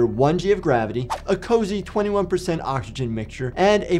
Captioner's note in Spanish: transición silbante